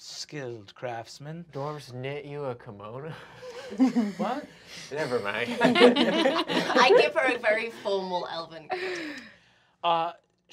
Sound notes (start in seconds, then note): 6.7 laughing